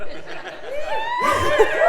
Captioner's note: laugh